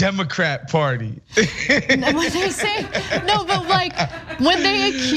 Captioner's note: laugh